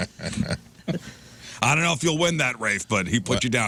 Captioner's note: laughing